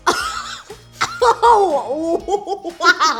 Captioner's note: laughing